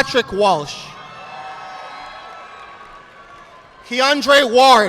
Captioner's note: audience applauding